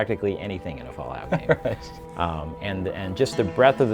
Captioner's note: chuckling